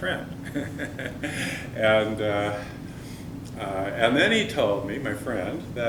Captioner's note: chuckle